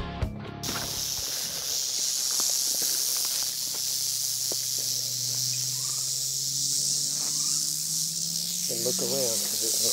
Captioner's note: snake rattling